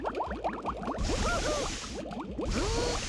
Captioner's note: water bubbling; groaning